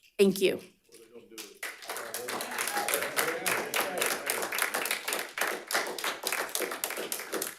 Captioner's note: audience murmuring; audience applauding